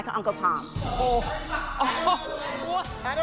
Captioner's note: laughs